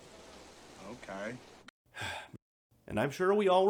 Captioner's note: sigh